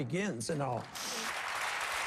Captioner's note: applause